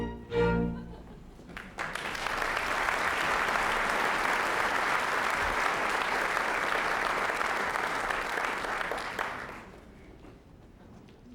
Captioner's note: applause